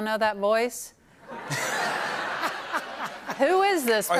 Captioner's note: laughter